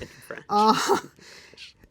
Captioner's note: laughs